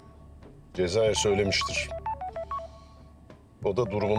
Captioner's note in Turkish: Telefon Çalıyor